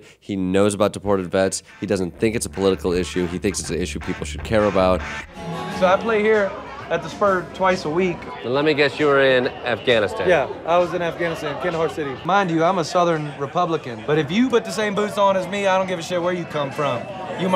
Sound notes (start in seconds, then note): 1.2 steady rock music; 7.9 people chattering